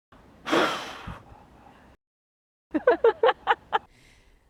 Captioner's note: blows snowflakes, laughing